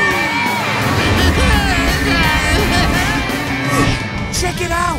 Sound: Crusher groaning

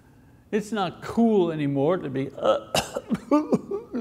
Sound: fake coughs

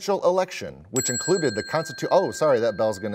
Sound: bell chimes

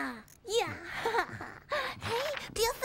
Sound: giggles

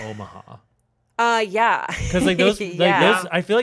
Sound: laughing

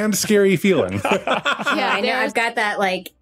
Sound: laugh

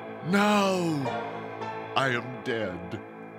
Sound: none

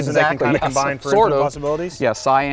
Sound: laughing

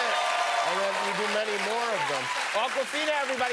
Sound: cheers and applause

